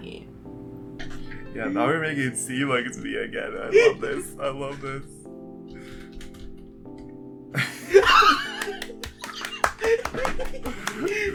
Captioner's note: laughter